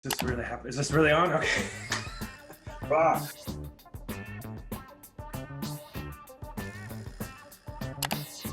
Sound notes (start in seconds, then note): 1.4 slight chuckle; 4.5 downbeat music